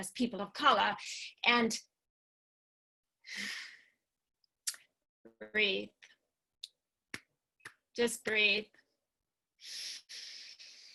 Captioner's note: breathes